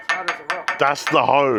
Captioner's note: hammering